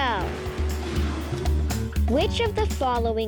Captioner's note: engine revving